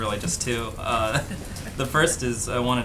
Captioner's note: laughter